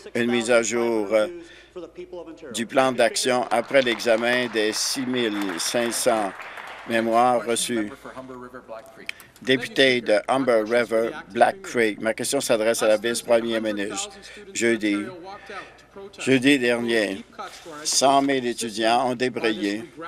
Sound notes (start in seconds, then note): 7.1 applause